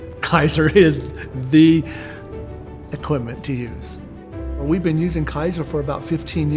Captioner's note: laughing